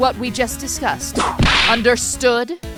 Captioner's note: whip crack!